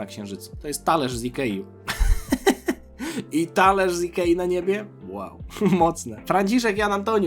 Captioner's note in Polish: śmiech